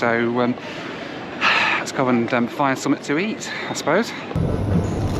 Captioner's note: sighs